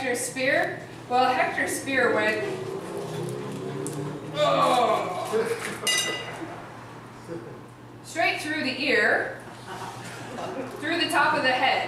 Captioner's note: uuuugh